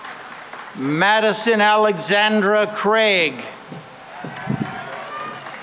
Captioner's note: cheering and applause